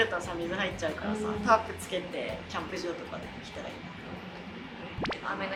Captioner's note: more and more whispering